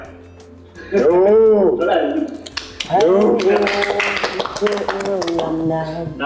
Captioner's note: everyone wooing and applauding